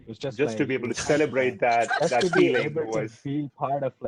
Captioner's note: overlapping with laughing